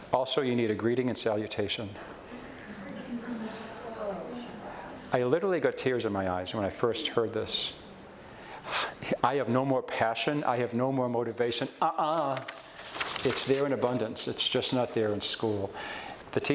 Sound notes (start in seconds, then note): 2.2 audience chuckles and groans